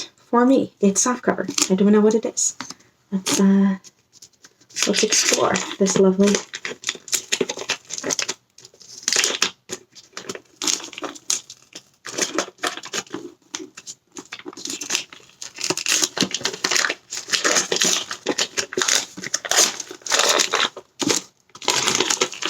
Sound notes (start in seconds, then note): 7.7 wrapping paper crinkles